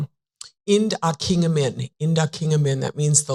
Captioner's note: foreign language